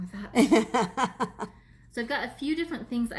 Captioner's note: laughs